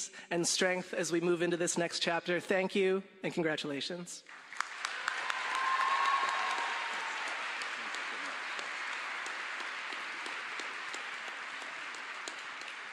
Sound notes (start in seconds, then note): 4.2 applause